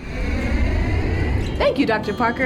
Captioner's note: airplane soaring